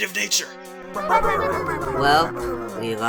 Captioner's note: Team 6 "leaders" bickering